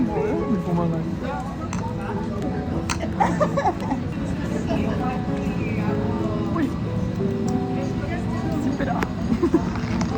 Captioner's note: laughter